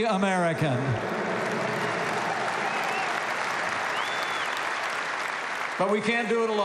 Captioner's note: applause